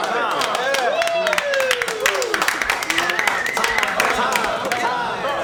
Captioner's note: patrons clapping, cheering and whistling